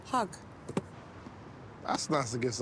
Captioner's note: box thudding